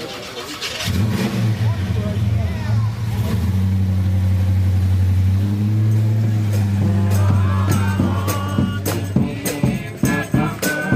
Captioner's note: truck revs engine; band playing